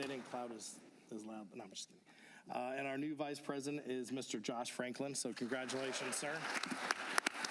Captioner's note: applause